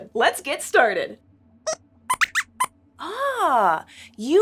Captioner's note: squeaks squeaks